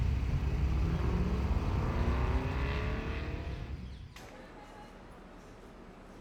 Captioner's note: car engine roaring in the distance